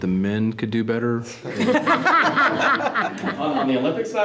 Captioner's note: group laughing